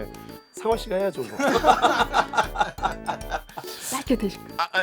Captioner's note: hahahah…